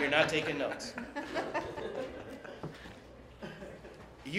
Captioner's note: laughter